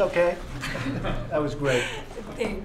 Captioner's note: laughter